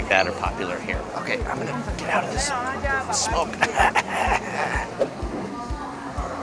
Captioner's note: coughs